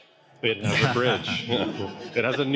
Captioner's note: laughter